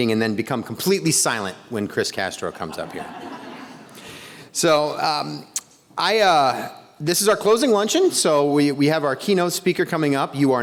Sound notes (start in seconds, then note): 2.5 attendees laughing